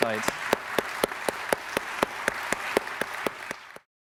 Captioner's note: audience applauding